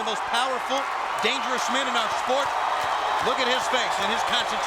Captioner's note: audience clapping, cheering